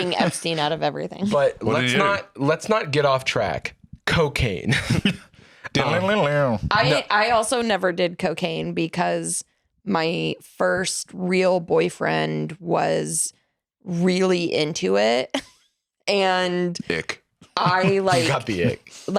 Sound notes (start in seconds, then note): 5.6 guitar riff; 17.5 laughs